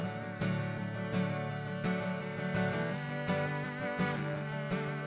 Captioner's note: hums with guitar